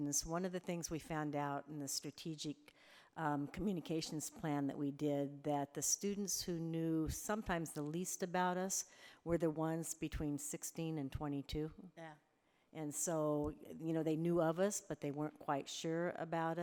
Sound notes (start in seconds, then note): none